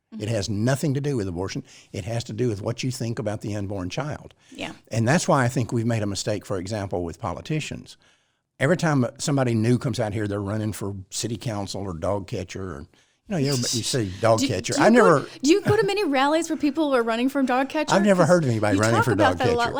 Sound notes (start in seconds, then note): 13.4 laughs